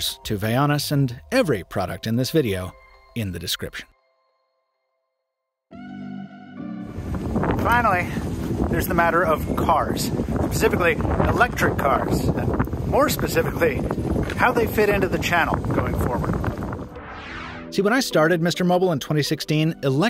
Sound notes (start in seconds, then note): 5.8 relaxing music; 7.1 wind roaring